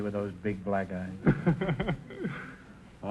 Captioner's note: laughing